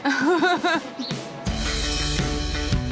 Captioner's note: she laughs; rock music